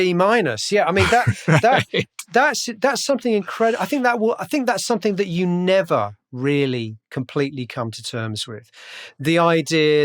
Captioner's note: laughter